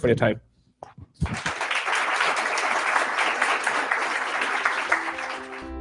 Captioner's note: applause